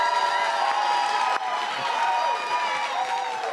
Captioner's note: cheers and applause